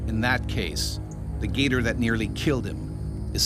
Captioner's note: voiceover